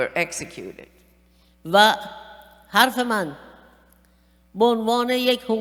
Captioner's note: speaking persian